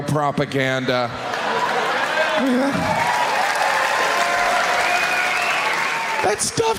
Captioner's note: audience cheering; audience clapping